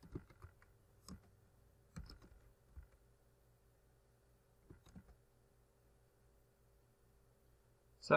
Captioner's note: typing